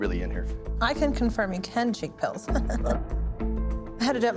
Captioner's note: chuckles